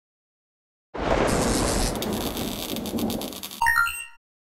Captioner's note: the boom and lightning of shock